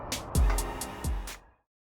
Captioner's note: Swanston Street noises fade